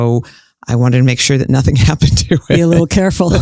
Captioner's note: laughs